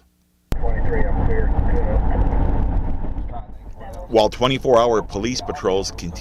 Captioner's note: police radio